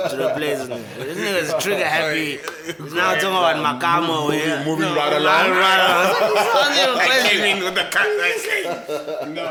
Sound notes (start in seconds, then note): 5.7 everybody laughs